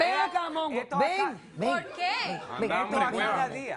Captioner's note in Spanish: Comentarios al unísono